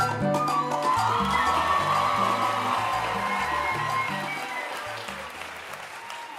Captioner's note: audience cheering and applauding